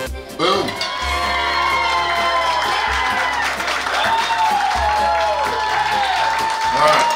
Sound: cheering

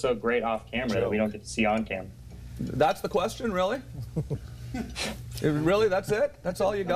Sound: laughter

